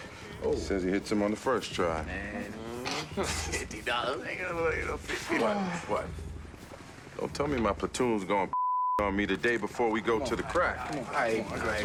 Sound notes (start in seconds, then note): 2.2 groans